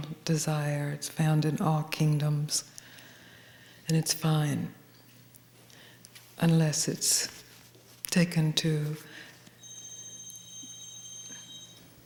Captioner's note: pauses for ringing bells